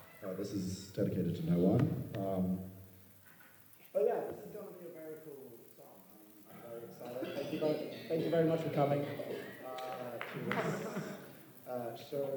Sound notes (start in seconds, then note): 3.8 away from mic